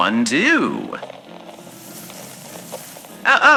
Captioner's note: Alastor grabbing flower fx